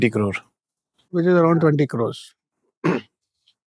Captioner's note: clearing throat